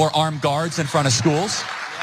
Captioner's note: applause